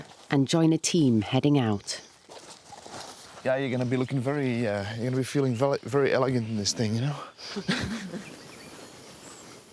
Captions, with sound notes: and join a team heading out. >> Yeah, you're going to be looking very... You're going to be feeling very elegant in this thing, you know? (both laugh)